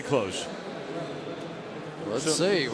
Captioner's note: pa announcement